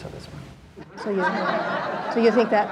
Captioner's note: audience laughing